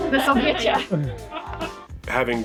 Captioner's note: all laughing